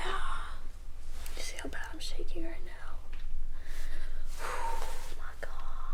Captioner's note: sighing